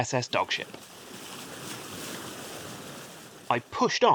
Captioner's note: ocean sounds